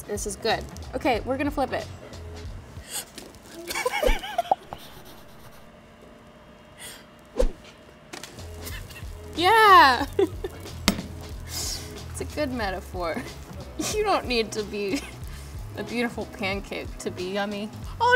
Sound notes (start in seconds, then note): 2.8 Madelyn gasps; 3.6 Madelyn laughs; 5.2 flipping sound effects